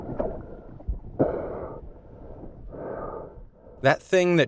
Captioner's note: heavy breathing